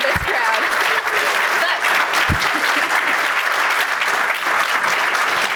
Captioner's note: audience applauding